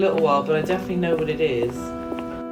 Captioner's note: footsteps; guitar music